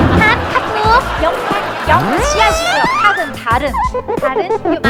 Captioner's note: korean